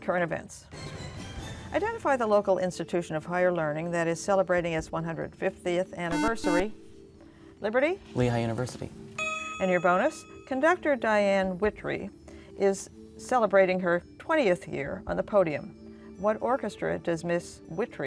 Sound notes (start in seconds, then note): 6.1 beeping